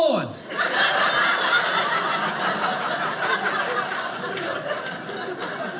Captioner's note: audience laughing